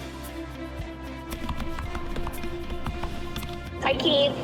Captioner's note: typing